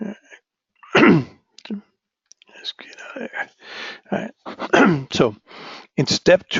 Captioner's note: cough